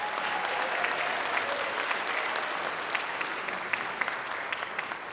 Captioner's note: sustained audience applause